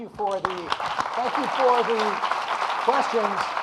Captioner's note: audience applauding